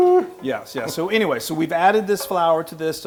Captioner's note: laugh